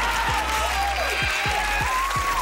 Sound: cheering

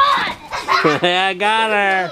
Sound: screams; laughs

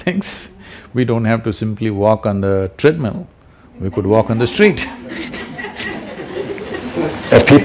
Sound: laughs; few laugh

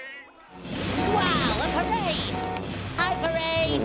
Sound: honking

